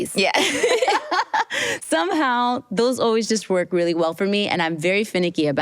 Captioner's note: laughs